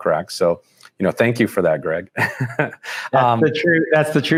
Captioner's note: laughs